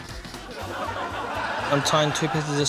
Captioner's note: laughter